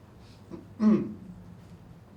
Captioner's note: clears throat